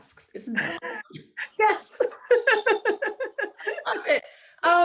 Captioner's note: laughing